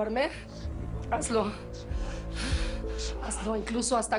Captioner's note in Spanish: Gary habla entre dientes